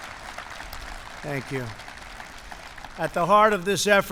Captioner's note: applause